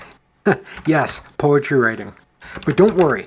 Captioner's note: chuckles